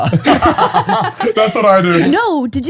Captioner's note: all laughing